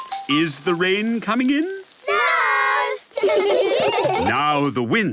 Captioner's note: laughter